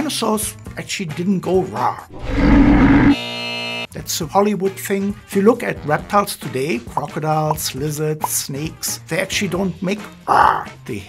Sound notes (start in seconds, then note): 2.1 growling; 3.0 buzzer